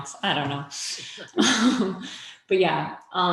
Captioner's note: laughing